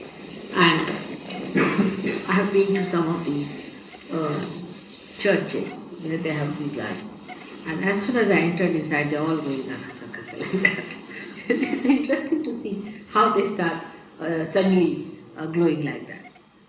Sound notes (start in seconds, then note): 11.8 Shri Mataji laughs